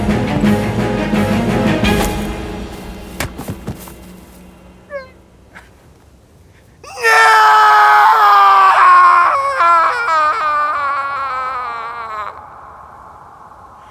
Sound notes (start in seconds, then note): 6.8 screaming loudly